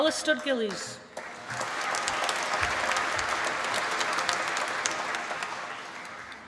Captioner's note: applause